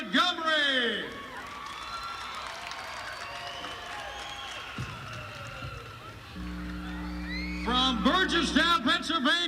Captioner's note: crowd cheering